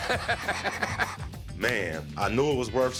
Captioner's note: laughs